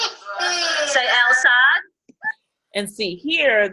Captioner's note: disembodied Female Voice